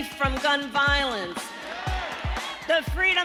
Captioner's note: crowd cheering